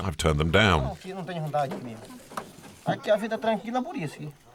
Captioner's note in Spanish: <i>habla en portugués